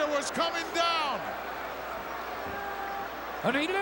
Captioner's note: crowd yelling